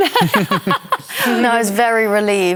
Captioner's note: laughter